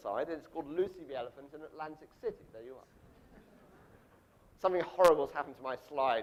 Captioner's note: audience laughs